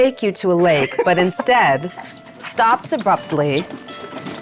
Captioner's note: chuckling